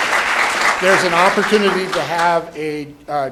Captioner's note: applause